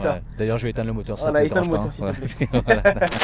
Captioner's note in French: rires